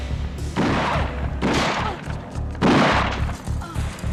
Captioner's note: gunshots blasting